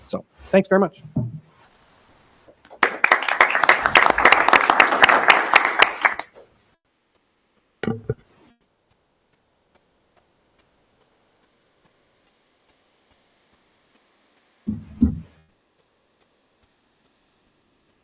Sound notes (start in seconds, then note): 2.7 audience applauding